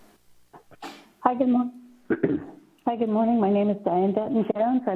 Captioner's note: clears throat